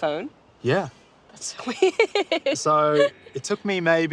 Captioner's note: laughs